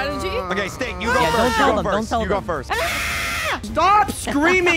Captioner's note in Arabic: تصرخ